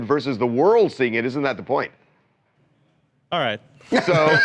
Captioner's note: laughter